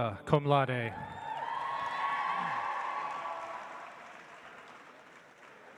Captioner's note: audience applauds